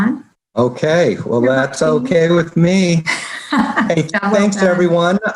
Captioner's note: chuckling